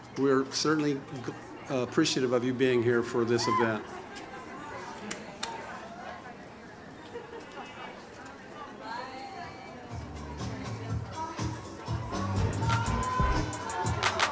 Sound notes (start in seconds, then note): 4.1 audience murmurs; 10.2 upbeat music